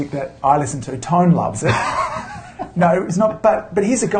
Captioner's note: laughs